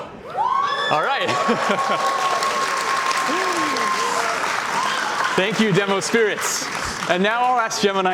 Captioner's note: cheers and Applause